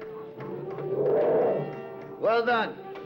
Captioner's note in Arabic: موسيقى درامية مشؤومة; هدير الفيل